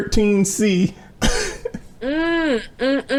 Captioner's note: laughing